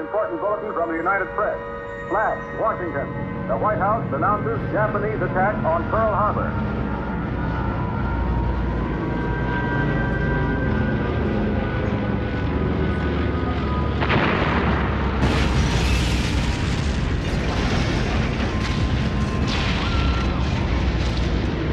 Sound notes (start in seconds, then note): 6.8 airplanes rumbling; 14.0 explosions rumbling